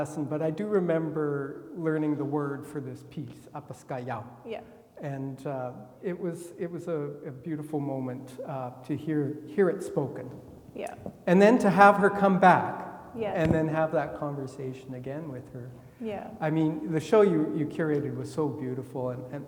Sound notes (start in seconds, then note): 3.1 speaks in foreign language